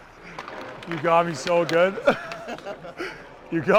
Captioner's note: Dvorak laughs